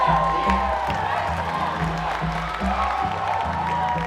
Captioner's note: clapping and cheering